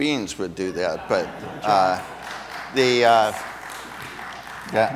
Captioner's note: audience applauds